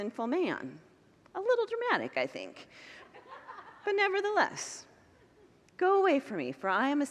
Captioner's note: congregants laugh